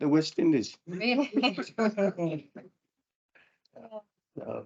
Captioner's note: panel laughs